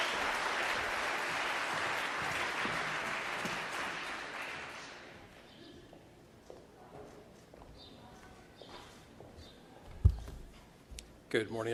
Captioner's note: applause